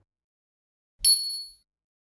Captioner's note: bell dings